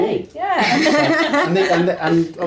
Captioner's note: all laugh